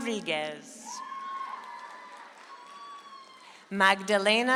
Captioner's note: audience applauds